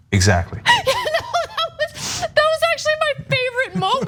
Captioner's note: laugh